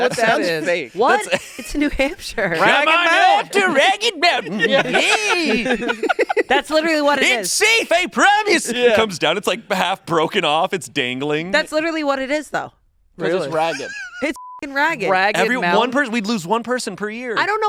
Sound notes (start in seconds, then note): 14.3 beep